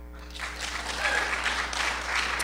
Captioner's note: applause